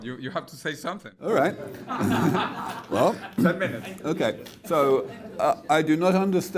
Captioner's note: audience laughs